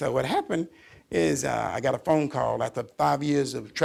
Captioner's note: none